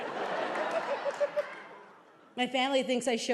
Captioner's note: audience laughing